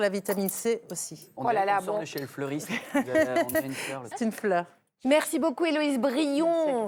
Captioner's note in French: rires